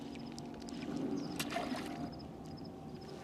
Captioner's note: splash